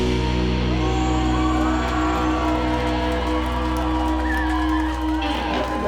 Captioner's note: audience cheering